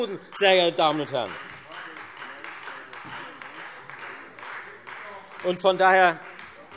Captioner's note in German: Beifall Freie Demokraten